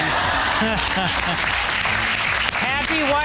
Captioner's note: laughing; audience applauding